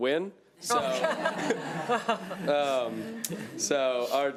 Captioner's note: laughing